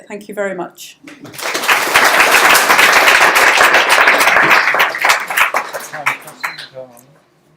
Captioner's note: applause